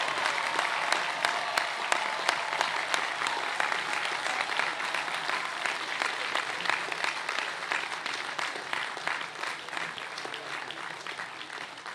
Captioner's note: cheers and applause